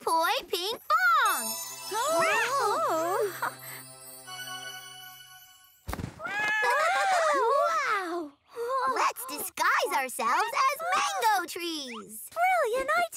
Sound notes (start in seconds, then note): 2.0 both exclaiming